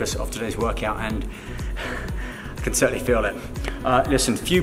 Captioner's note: exhaling